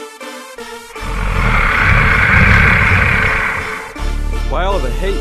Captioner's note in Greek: Γρυλίζει